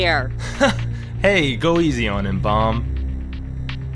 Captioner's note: laughs